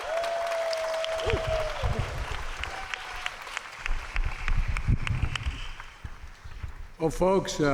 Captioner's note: applause